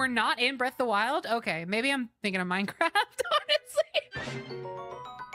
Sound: laughter

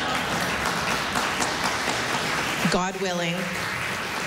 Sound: laughter, applause

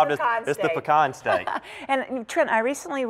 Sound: laughter

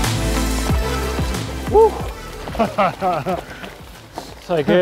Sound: laughing

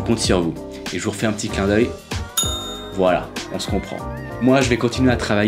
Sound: ding

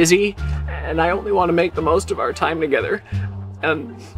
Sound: sniff

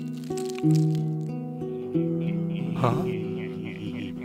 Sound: offscreen laughter

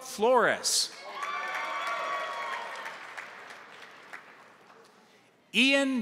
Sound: crowd cheering; crowd applauding

